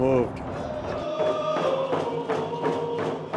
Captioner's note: crowd chanting in native language